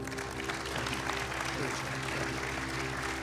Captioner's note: applause